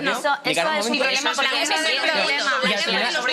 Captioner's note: they speak at the time